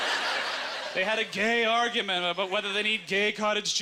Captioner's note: audience laughter